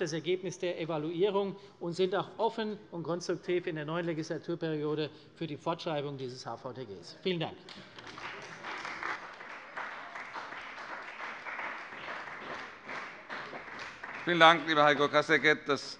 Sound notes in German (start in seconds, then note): 7.6 Beifall bei der CDU und dem BÜNDNIS 90/DIE GRÜNEN